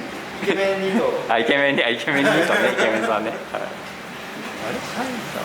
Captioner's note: laughs